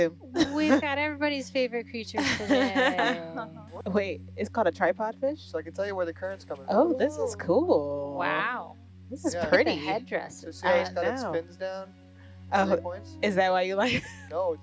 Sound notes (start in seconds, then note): 2.1 woman laughing